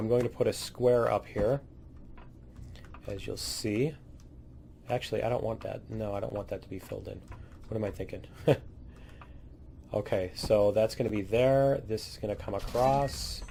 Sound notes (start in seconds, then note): 8.9 laughs